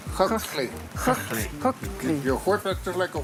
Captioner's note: non-english